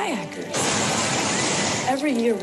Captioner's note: water rushing